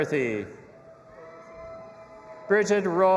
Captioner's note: audience applauding and cheering